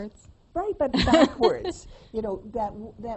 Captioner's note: laughs